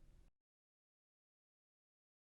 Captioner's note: end of audio